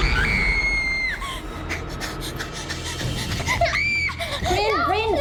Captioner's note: Reenactment Bryn screaming; panting; screaming